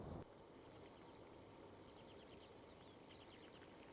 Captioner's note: water boiling